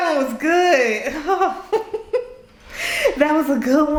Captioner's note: laughing